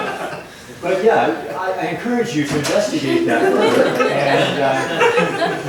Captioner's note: laughter